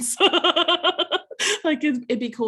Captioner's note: laughing